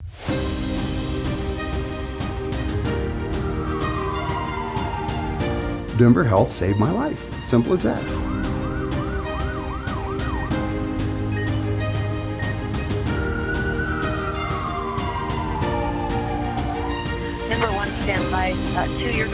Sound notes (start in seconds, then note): 0.3 dramatic music; 2.9 siren wails; 8.7 siren wails; 11.3 monitor beeping; 13.2 siren wails